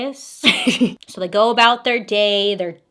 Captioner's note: laughs